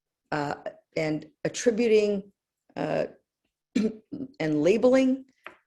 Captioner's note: cough